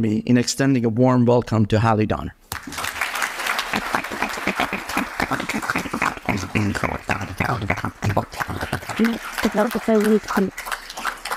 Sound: applause

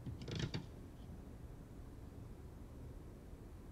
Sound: floor creaking

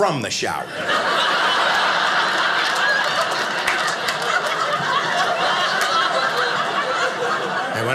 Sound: audience laughing

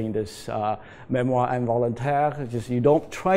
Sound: non-english

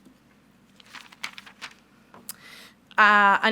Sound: paper rustles

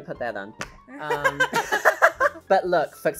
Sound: both laughing

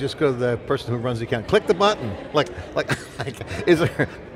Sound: laughs

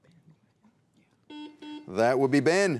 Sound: buzzer beeps

